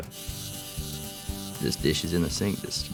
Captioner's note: robot whirling